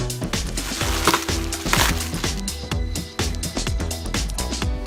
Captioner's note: package rustling